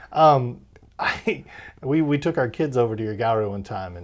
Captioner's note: laughs